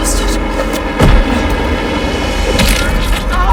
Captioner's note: groans; screams